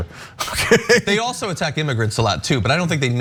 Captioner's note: laugh